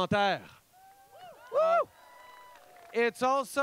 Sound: cheers

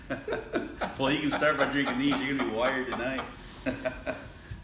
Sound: laughing

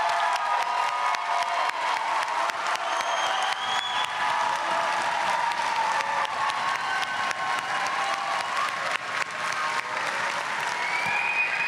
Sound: applause

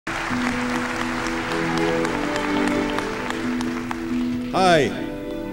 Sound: applause; gentle music

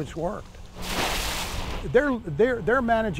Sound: water sloshing

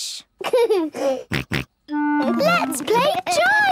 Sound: giggles, snorts

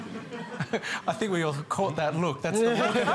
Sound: laughter

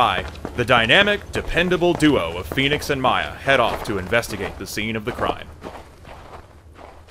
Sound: footsteps trailing off

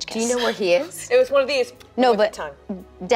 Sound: kiss

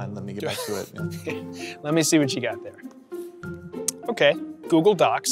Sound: laughs

